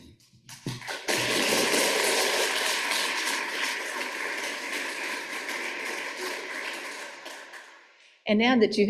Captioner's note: applause